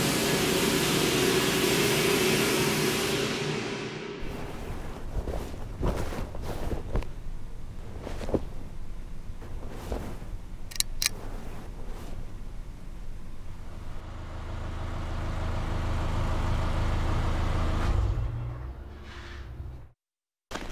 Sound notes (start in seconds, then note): 15.7 motor engine roaring; 18.1 motor shuts off; 20.5 backpack zipping